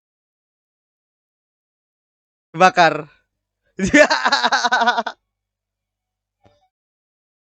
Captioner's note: laughs